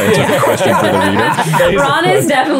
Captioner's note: everyone laughing